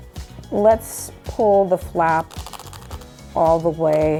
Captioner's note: strap clicks